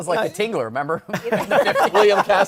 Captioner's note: laughter